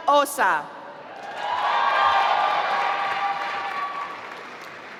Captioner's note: applause